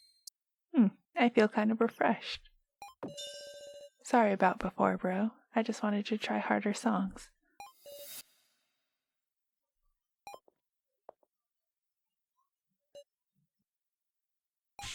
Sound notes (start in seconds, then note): 10.0 quiet, Slow footsteps